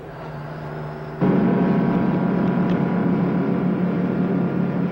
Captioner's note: truck engine whirring